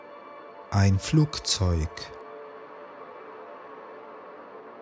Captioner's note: german